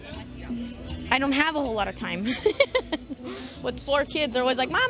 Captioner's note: laughs